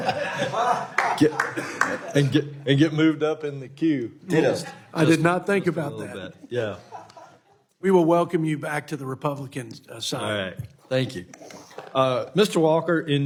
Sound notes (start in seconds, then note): 2.9 laughter